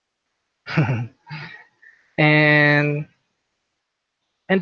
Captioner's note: chuckles